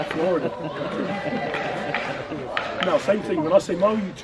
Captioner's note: chanting in distance